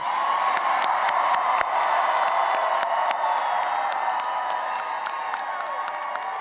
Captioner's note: cheering and applause